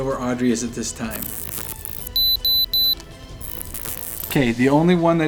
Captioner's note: digital buzzing and beeping